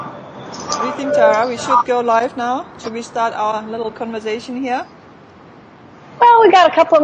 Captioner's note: mexico birds chirping in the background